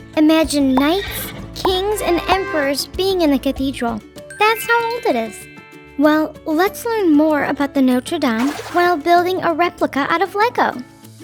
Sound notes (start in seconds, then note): 0.7 horse neighing; 2.2 trumpets fanfaring; 4.3 stars chiming